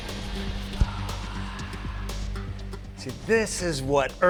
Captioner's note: exhales sharply